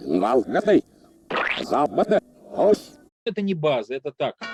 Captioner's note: talks in reverse